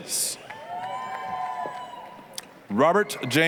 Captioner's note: applause, cheering